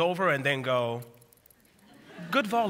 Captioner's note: laughter